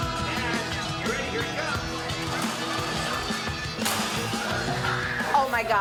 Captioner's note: toy thumping